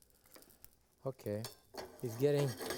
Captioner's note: pan shuffling